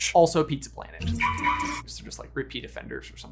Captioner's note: car unlocks